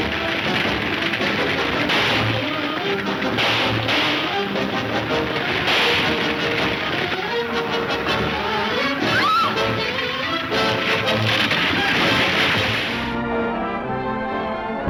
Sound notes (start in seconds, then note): 0.2 gunshots banging; 7.2 Mary screams; 11.3 upbeat orchestral music